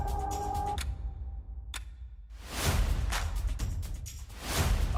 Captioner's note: clock ticking